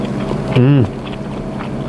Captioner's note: eating sound